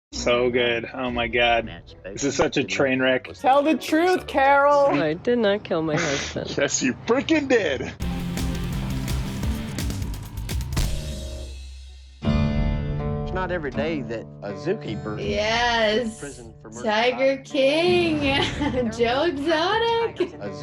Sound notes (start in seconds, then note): 5.0 voice-over; 7.4 chuckles; 8.0 rock intro